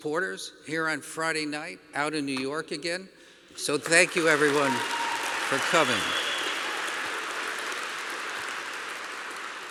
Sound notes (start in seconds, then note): 3.8 applause